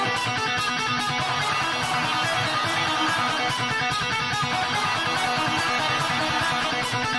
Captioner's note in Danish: Bifald